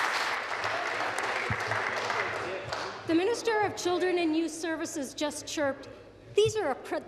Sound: applause

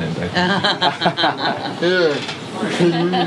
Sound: all laugh

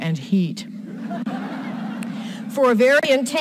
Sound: audience laughs

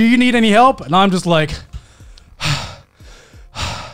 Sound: panting

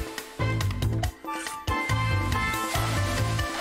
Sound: sizzling

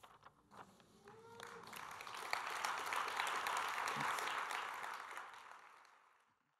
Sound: applause

